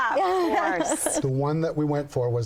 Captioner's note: laughs